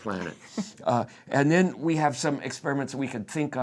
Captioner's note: laughs